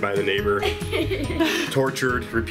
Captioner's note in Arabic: يضحك